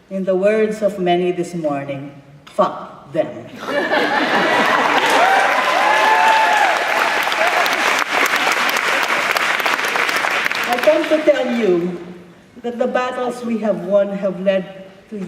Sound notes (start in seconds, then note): 4.3 cheering